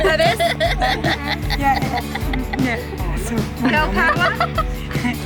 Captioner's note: everyone laughing